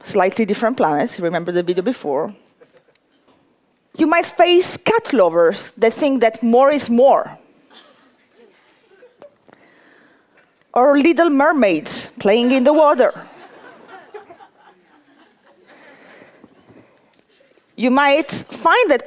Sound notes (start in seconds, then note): 13.2 laughter